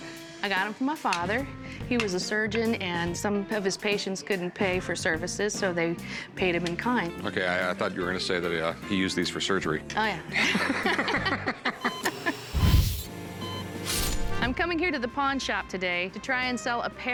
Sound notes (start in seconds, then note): 10.3 laughter; 11.8 hear rate monitor beeping